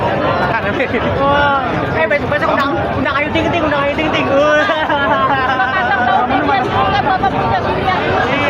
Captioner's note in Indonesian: tertawa